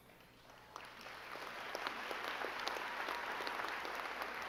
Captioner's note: crowd clapping